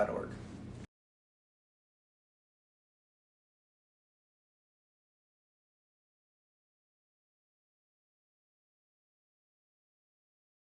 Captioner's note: silence